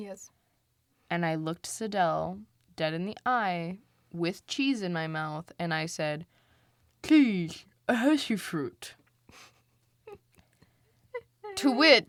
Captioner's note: laughs